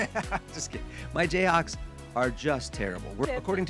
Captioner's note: laughs